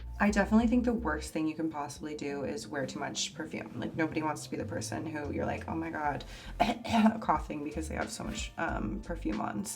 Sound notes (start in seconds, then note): 6.5 coughs